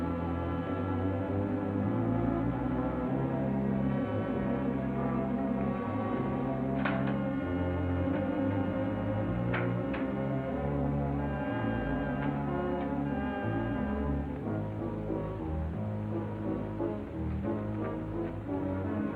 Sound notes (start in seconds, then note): 0.2 ominous music; 7.2 door opens; 15.4 dramatic music